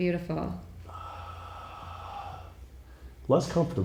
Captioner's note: sighing